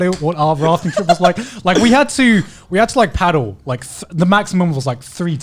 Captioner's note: laughing